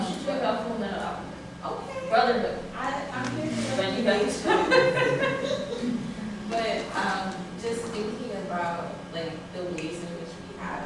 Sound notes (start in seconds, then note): 4.4 laughter